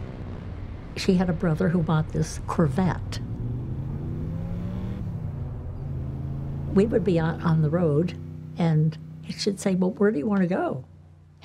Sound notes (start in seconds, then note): 3.6 car engine revving